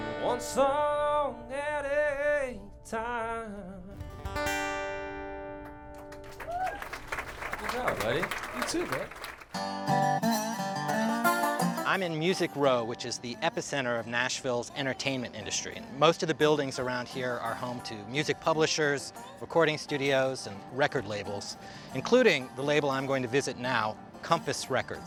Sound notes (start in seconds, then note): 5.9 applause